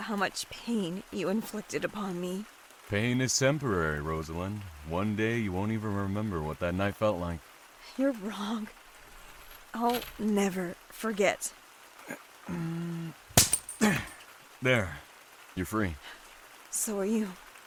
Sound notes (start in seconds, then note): 11.6 grunts; 13.3 handcuff chains break